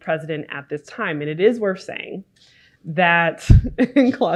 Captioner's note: chuckles